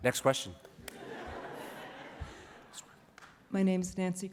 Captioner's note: laughter